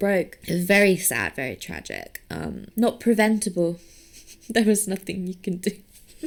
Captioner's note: chuckling